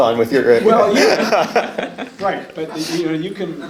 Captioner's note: laughs